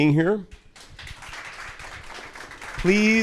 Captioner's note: audience applauding